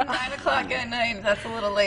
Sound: laughter

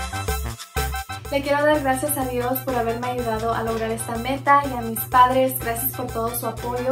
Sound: speaks in foreign language

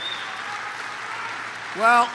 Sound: applause

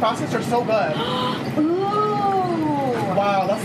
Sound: gasps

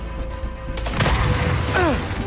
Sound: gunfire

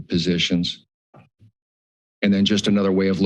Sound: pause

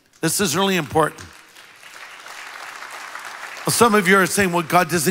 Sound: congregation applauds

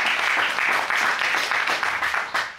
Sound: audience applauding

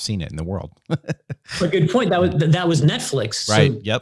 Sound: laughing

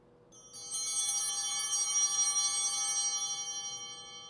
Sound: chimes ringing

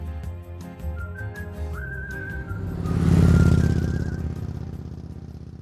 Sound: lively music; motorbike roaring

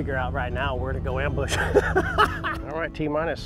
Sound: laughs

